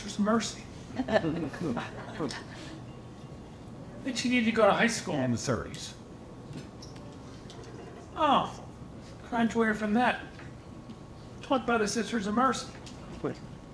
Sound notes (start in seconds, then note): 1.0 audience laughing